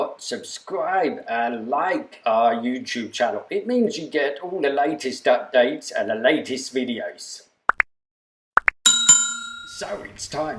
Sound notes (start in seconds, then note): 8.8 click and ping sound to subscribe